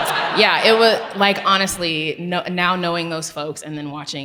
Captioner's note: audience laughs